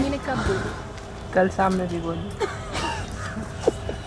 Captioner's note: laughs